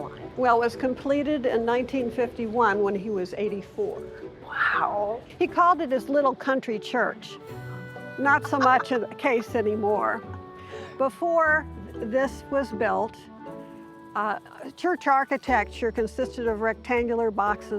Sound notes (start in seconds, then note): 8.2 laughs